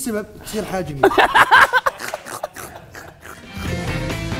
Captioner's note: snort-laughing